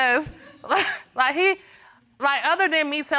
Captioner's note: chuckling